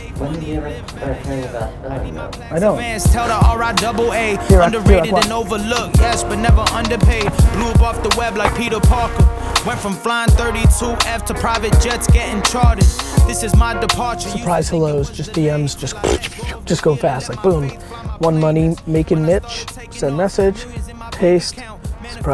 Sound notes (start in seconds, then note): 15.8 blows raspberry